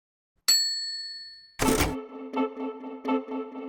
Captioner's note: typewriter dings; upbeat music